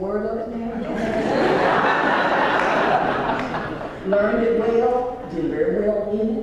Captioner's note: laugh